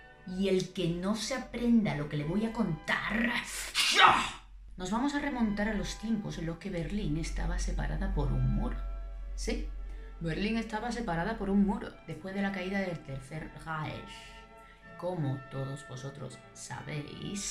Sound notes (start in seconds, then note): 3.7 whip